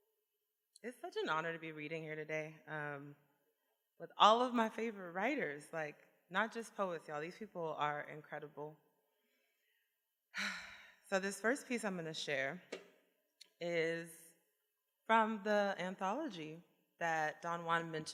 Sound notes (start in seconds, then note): 10.0 sighs